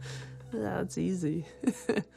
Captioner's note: chuckles